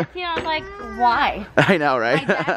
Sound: laughs

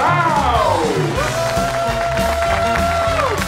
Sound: cheering, applause

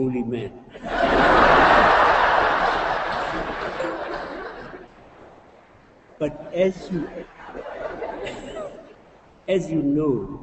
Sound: laughter

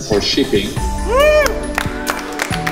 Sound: applause

